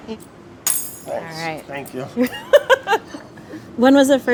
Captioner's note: laughs